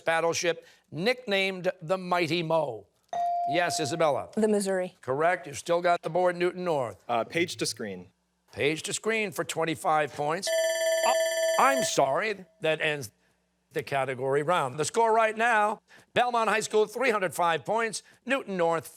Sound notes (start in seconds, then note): 10.5 timer